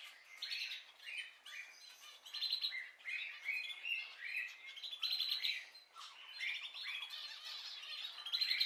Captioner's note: birds singing